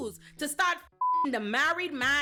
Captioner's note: beep